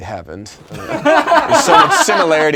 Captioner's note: laughing